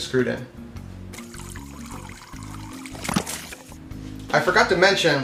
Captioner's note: water trickling